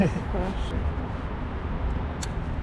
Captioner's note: laughs